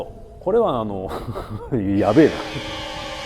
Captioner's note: laughs